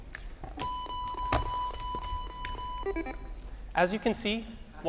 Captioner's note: beeping